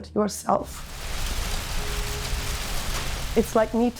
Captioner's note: fire crackling